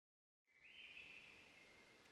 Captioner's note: nature sounds